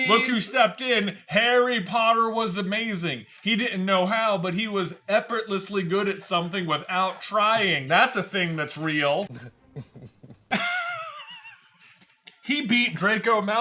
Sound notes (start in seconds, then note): 12.4 laughter; 12.4 smarmy chuckle